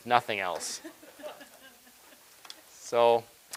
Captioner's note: audience laughing